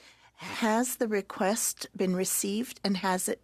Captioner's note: speaking French